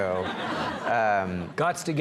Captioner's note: audience laughs